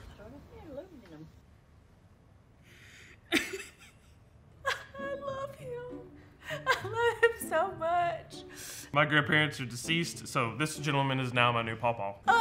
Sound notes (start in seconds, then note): 3.2 laughing; 4.6 laughs